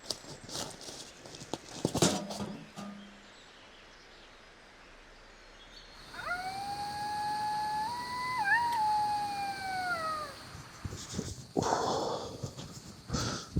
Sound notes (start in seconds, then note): 6.0 jackal sounds